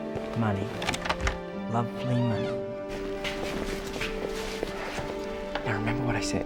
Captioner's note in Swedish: skrasslar i dörren